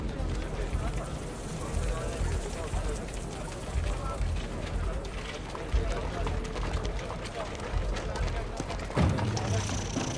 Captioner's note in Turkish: Nal sesleri